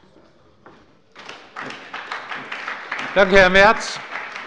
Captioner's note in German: Beifall bei der SPD